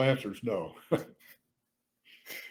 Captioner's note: laughs